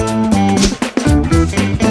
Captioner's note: swish